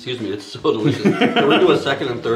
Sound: laughing

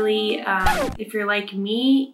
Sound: record scratching

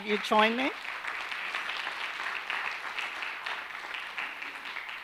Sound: audience applauding

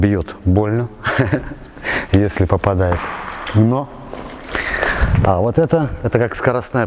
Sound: laughs

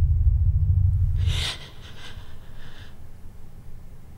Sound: Iris gasps

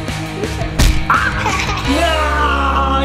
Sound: thump; laughing loudly

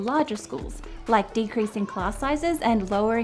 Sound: children chattering

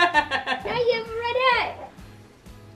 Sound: laughs

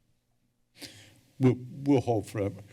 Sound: breaths deeply

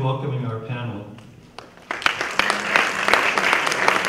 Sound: applause

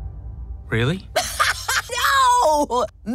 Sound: laughing

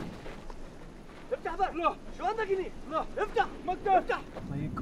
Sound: speaking foreign language

